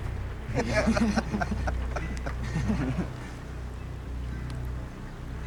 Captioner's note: crow laugh